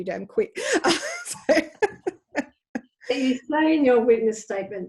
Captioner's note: laughing